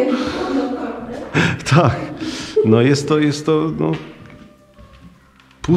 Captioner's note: laughs